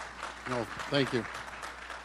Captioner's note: applause